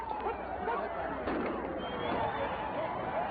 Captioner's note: gunshot; sirens